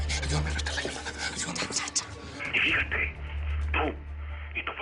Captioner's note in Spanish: Susurros